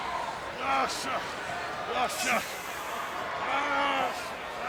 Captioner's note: wrestler grunting